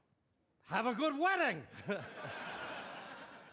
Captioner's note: chuckles